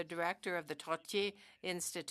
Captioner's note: speaking French